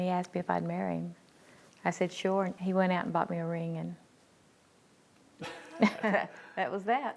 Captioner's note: laugh